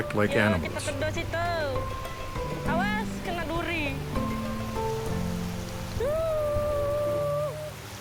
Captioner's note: speaking in foreign language